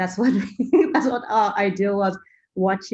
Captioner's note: laugh